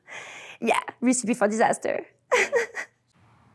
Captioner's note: laughs